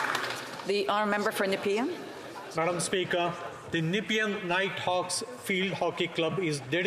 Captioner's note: some Applause